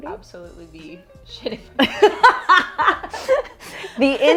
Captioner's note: both laugh